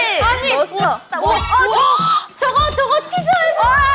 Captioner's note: excited